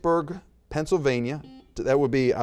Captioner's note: buzzer beeps